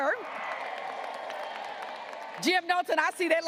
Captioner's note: graduates applauding